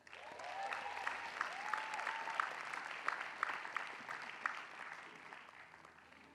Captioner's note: applause